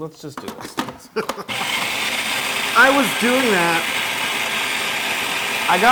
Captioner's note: laugh